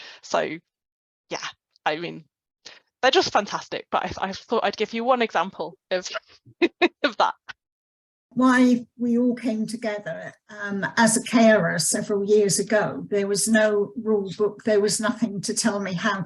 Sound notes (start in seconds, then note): 6.5 laughs